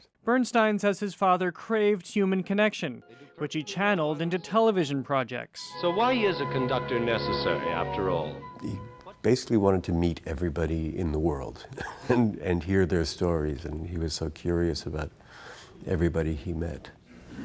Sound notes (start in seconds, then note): 11.7 laugh